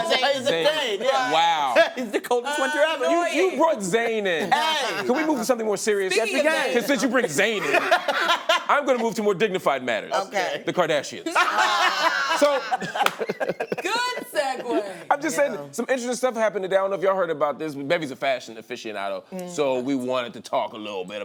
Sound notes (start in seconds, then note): 0.0 laughs; 11.2 laughter; 11.2 laughing